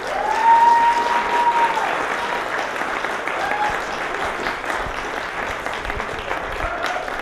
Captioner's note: applause, cheers